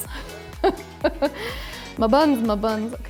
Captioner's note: laughing